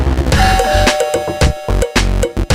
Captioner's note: ding!